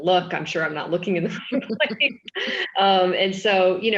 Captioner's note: laughing